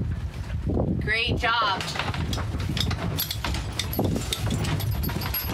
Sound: pulley clinking

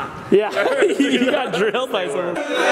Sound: laughing

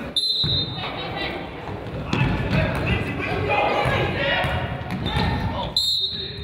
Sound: whistle blows; crowd yells; whistle blows

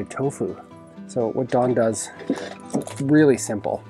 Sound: clangs

